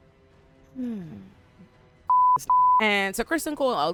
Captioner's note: beep